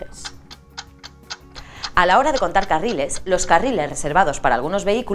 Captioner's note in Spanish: tick tack